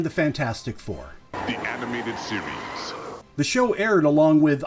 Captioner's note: deep announcer voice